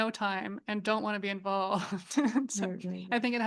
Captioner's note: chuckles